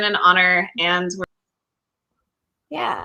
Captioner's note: audio cuts off